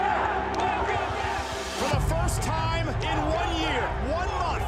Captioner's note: audience cheering